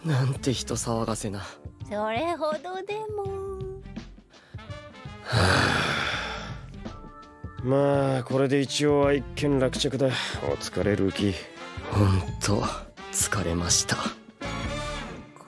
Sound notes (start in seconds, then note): 5.1 sighs